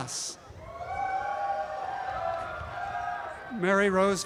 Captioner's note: applause and cheering